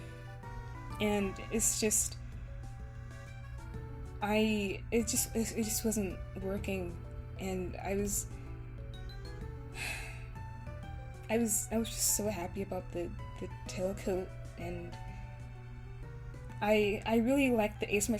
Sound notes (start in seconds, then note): 9.8 sigh